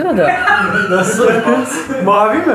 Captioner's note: laughs